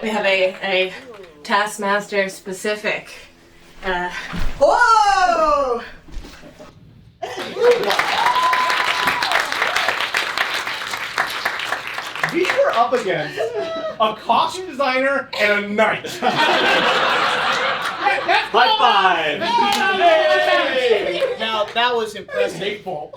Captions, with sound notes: We have a Taskmaster specific- Whoa! [APPLAUSE] We are up against a costume designer and a knight. [LAUGHTER] High five! That's called "a little advantage." Now, that was impressive.